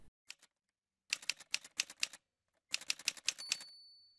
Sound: typewriter sounds

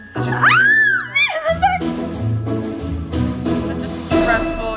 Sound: screams

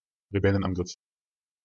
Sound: fast Pronunciation

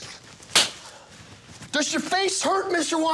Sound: hand slapping

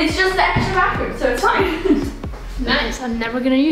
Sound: laughing

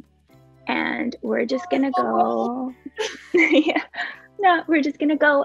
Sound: laughs

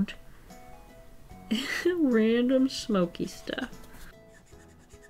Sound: laughs

